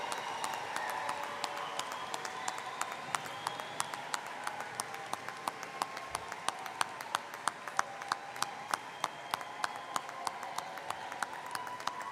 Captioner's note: cheering